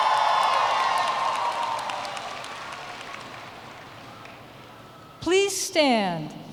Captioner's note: cheers and Applause